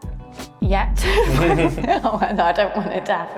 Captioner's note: laughing